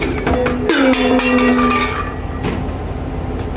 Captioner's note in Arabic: قعقعة معدنية